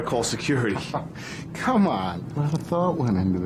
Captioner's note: chuckles